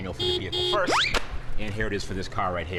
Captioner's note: horn honking